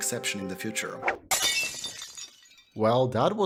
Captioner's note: glass shatter